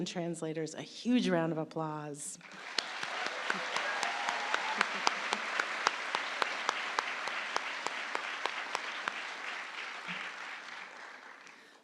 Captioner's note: applause